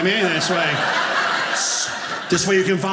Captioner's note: audience laughing